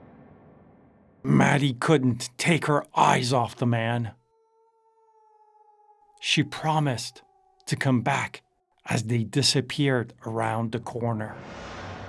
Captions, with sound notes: Maddie couldn't take her eyes off the man. (wolves howling) She promised to come back as they disappeared around the corner.